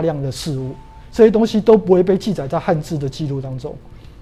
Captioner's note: chinese words